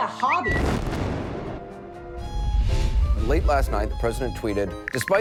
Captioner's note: explosion booming